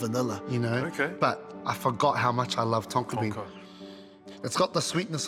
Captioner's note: sniffs